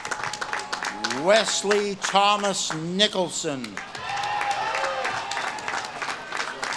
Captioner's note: audience claps and cheers